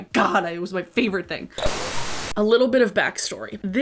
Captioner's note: static buzzes